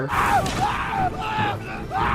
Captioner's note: screaming